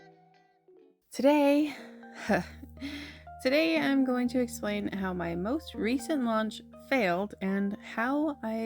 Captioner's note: sigh